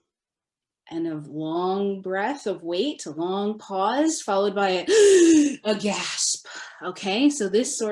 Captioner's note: gasp for air noise